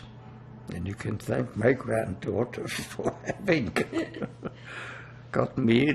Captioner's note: laughing